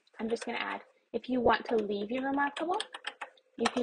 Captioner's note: more keyboard keys pressed; keyboard clicks